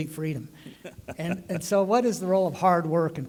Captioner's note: laughter